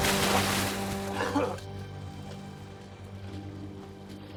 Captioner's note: coughs